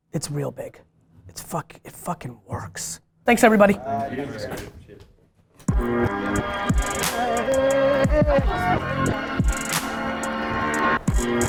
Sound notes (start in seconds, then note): 4.6 group chatter